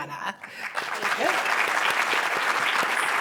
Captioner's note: applause